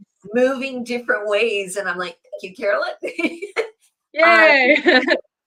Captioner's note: laughs